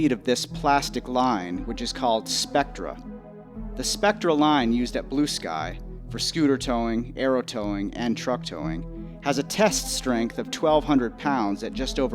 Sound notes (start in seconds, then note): none